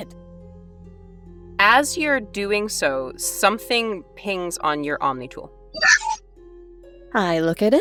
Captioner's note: omnitool chimes